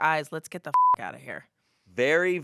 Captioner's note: beep